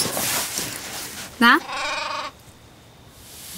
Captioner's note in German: Blöken